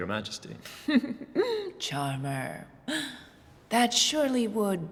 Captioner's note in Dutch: giechelt